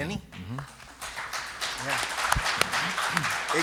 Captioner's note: applause